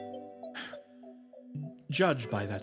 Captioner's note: sigh